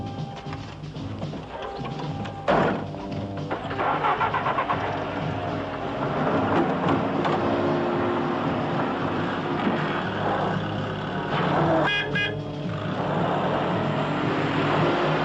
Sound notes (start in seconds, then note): 0.7 door slams; 2.4 engines ignite; 10.3 horn honks; 12.4 wheels strain